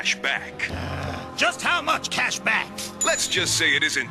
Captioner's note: growls